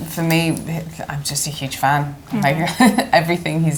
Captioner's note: giggles